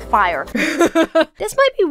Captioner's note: laughs